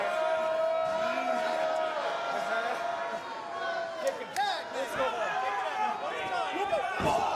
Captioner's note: cheers & applause